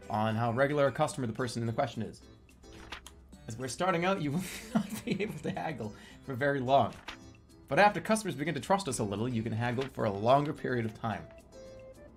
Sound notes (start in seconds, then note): 4.2 bursts out laughing